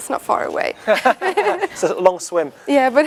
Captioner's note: laughing